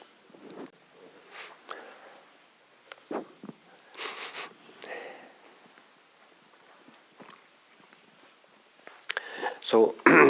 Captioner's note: silence